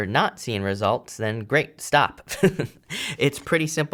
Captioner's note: chuckles